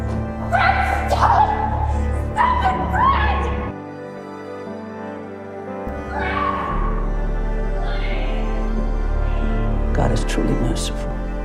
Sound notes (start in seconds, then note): 0.7 shouting; 6.7 shouting; 10.2 voiceover